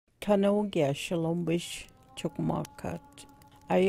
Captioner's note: narration in Chickasaw language